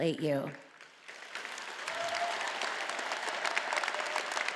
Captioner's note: all applauding